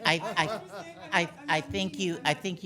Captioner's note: laughing